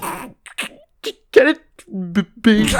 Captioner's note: chortles